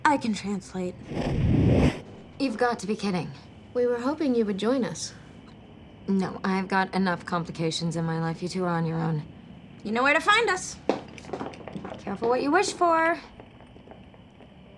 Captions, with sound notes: I can translate. You've got to be kidding. We were hoping you would join us. No, I've got enough complications in my life. You two are on your own. You know where to find us. (footsteps tapping) Careful what you wish for.